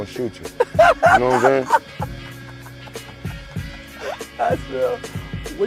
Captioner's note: laughing